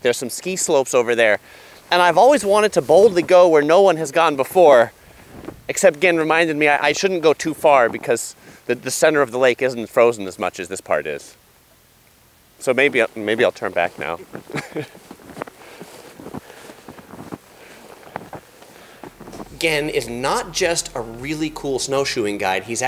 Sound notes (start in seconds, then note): 14.5 laughs; 15.9 heavy breathing